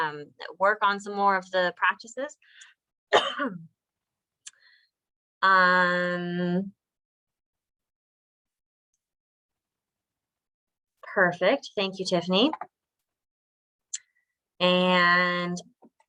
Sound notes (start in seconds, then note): 3.1 coughs